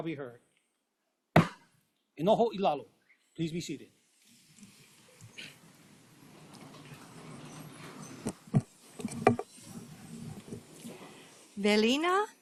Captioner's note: gavel bangs once